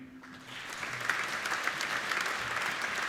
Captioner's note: applauding